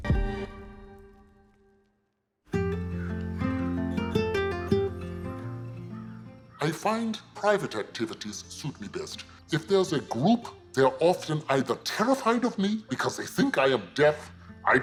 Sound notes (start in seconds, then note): 0.3 ambient music ends; 3.0 crow caws; 3.0 gentle music